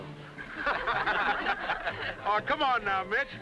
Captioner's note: everyone laughing